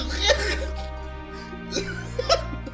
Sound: laughter

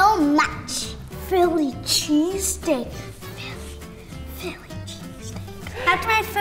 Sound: whispered

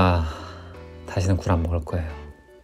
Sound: sigh

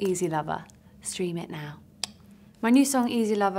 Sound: tongue clicking

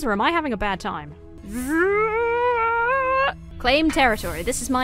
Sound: groans

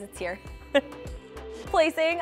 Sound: laughing

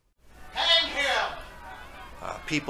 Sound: crowd noises

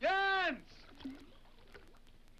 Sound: water splashes

